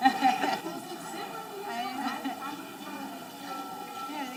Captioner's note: people chattering